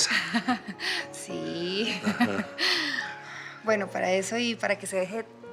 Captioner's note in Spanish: Risas